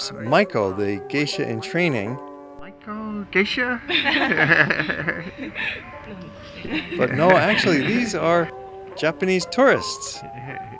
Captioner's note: geisha? laughter